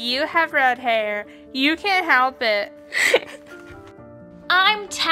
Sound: laughs

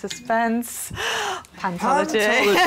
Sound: gasps

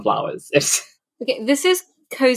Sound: laughs

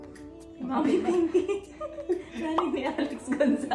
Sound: laughs

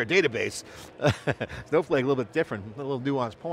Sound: laughs

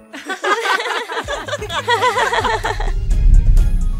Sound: all laughing

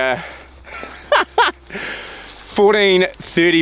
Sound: laughter

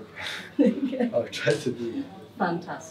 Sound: laughing

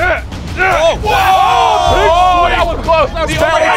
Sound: screaming

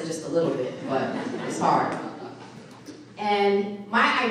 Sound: audience laughing

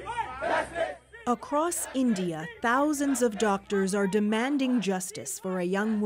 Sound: chanting

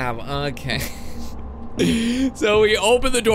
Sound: laughs

